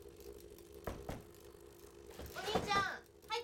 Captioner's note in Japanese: ノック